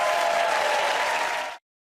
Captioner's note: cheers and applause